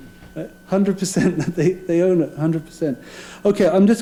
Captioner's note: laugh